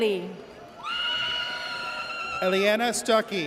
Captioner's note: audience cheers